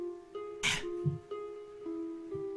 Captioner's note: breath